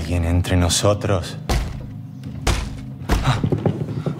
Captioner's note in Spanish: Golpes